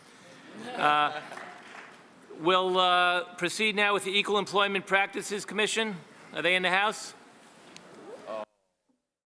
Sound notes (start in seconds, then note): 0.6 a few audience members chuckle; 8.0 people murmur